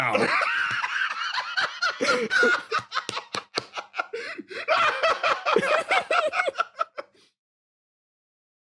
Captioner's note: laughs